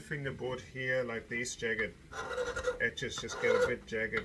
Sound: scraping

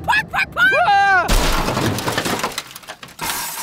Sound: crunching

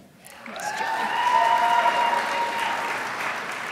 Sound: crowd applauds

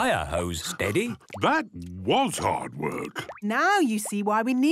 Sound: panting

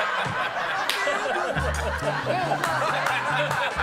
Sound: he can't hold back his laughter

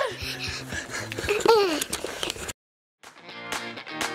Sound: panting; pop music

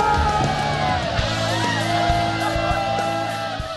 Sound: cheering

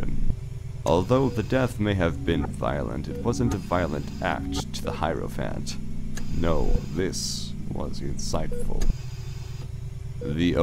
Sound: mechanical ambiance

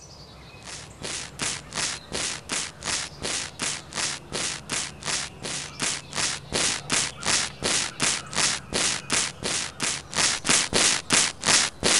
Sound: snipping

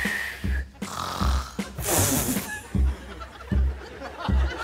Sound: whistles, snorts, blows raspberry

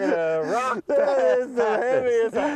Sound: laughter

